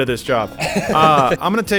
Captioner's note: laughs